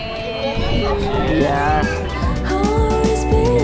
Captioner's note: all cheering